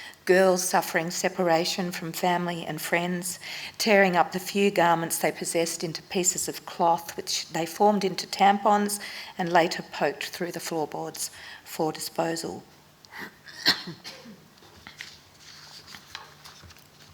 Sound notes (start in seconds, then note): 13.1 coughs